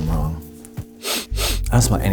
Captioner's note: sniffs